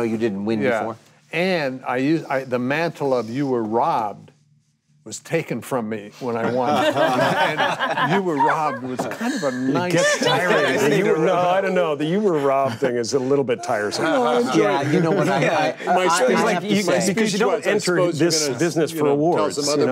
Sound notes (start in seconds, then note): 6.4 group laughing